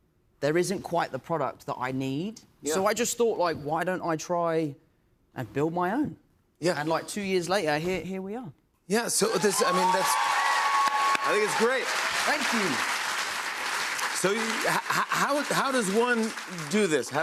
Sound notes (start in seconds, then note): 10.0 cheers and applause